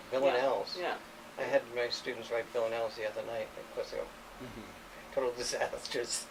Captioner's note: chuckles